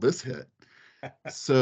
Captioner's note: laughing